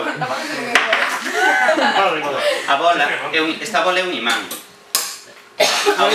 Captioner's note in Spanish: risas